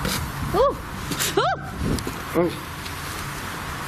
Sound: screams

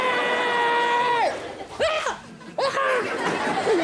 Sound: shrieking; yelling

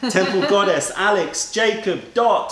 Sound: laughter

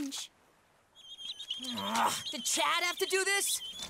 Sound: groaning

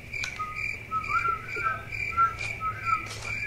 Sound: whistles

